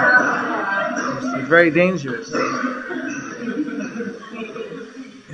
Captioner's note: laughter